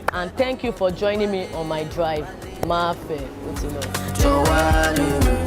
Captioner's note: non-english